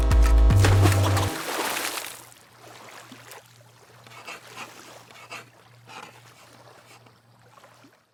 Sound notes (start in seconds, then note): 0.1 horn blares; 0.5 water splashes; 4.1 pen scribbles